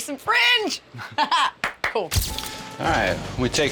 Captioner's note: clapping